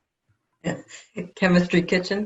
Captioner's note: laughs